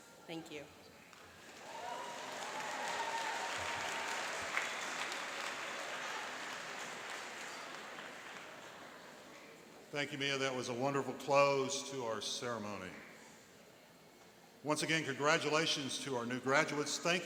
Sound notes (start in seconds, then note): 1.3 cheering and applauding